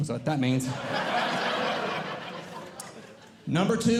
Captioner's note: audience Laughing